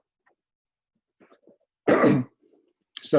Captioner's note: clears throat